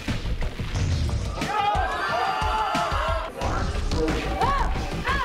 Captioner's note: crowd cheers